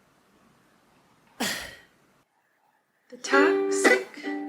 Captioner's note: sighs